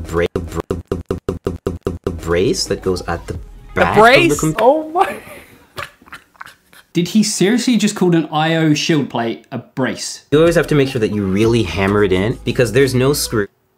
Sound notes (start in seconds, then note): 5.0 laughs